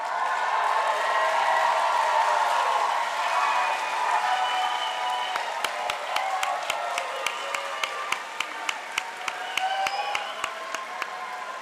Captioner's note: applause